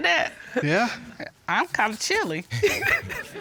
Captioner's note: chuckles